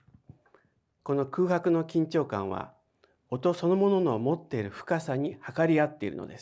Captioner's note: speaking in foreign language